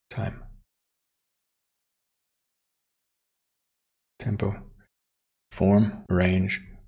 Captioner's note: silence